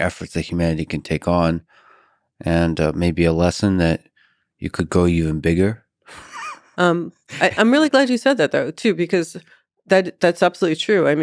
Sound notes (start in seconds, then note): 6.1 chuckles